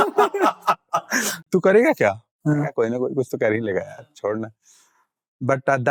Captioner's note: all laugh loudly; speaking in Hindi